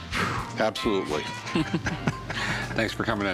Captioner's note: exhales; chuckles